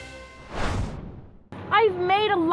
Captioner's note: air whooshing